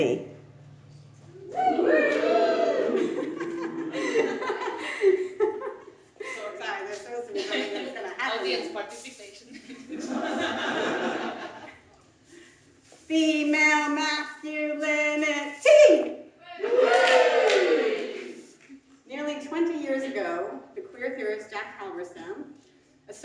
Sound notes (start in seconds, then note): 1.3 crowd cheering; 2.9 laughs; 9.7 audience laughs; 16.5 audience cheers